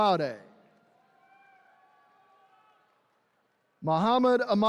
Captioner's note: attendees cheering